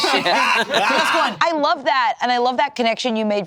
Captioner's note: all laughing